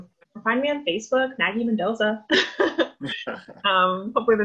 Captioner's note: laughs